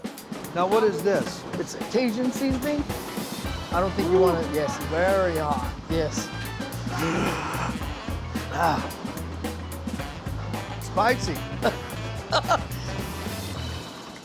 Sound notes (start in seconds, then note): 6.8 gasps; 12.2 chef chuckles